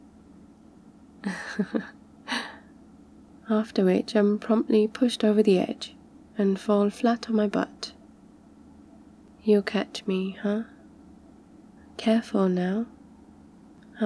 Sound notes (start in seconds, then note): 1.2 laughs